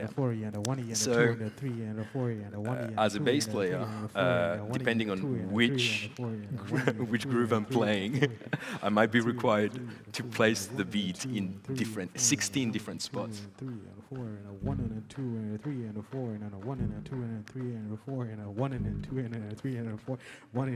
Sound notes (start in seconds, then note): 5.5 laughs